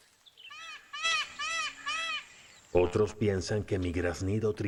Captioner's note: graznidos